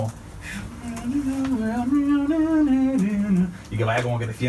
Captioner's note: hums some more